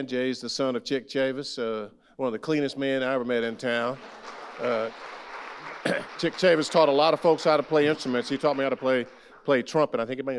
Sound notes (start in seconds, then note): 3.7 audience applauding; 5.8 clears throat